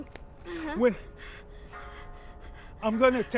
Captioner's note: moans; Nyah panting